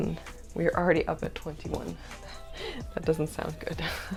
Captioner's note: laughter